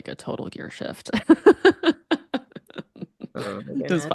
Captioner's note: laughs